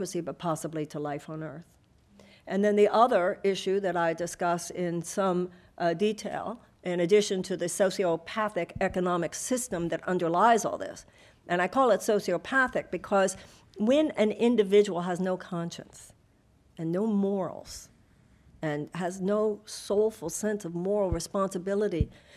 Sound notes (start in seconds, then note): none